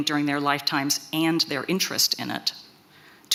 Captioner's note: none